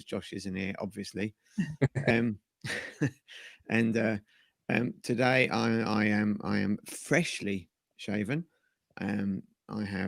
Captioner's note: laughter